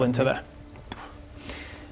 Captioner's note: poof